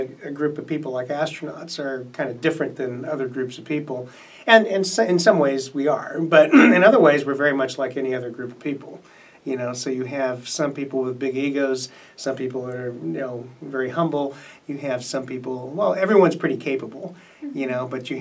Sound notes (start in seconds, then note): 6.4 clears throat